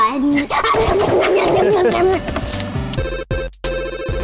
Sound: growling and eating sounds; electronic music

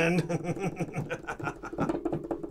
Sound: Chad laughs

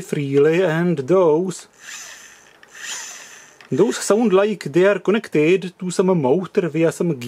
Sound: small electric motor noise

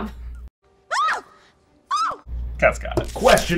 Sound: squeal

